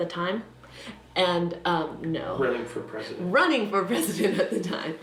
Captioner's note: laughter